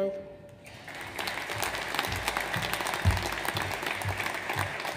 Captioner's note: audience applauds